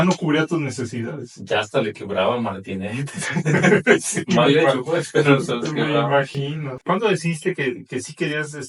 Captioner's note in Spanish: risas